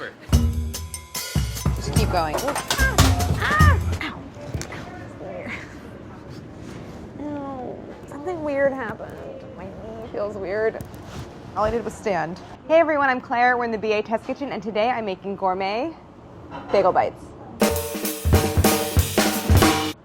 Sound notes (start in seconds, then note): 0.3 upbeat jazzy music; 2.2 clattering; 3.2 yelping; 17.6 upbeat jazzy music